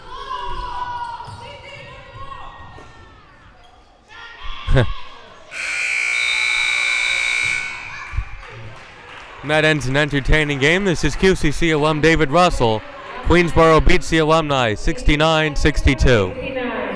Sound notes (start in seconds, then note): 5.5 loud buzzer blaring